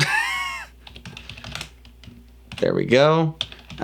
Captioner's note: laughs